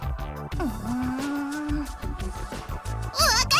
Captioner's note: hesitant groan